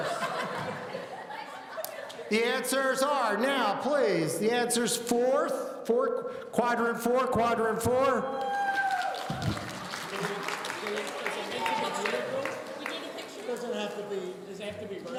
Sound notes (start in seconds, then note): 0.0 laughing; 8.3 audience cheering